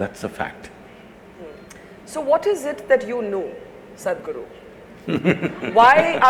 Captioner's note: Sadhguru laughs